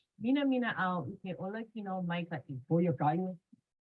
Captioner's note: interviewee speaking in foreign language